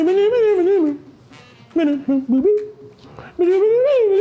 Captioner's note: vocalizing